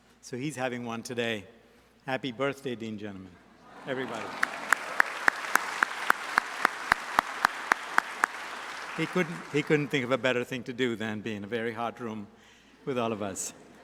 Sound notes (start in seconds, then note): 3.7 audience applauds; 13.6 audience laughs